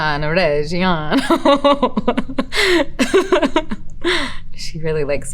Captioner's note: Elizabeth laughs